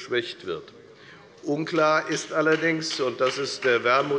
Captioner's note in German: Beifall der Abg